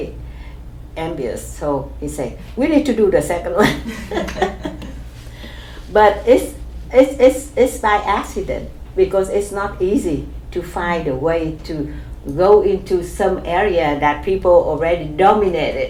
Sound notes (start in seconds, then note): 3.6 laughs